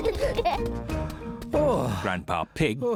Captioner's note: both giggling; sighs